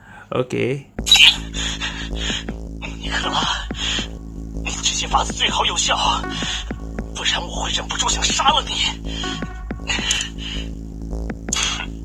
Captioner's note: violent breathing